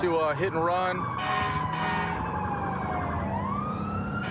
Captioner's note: emt sirens blaring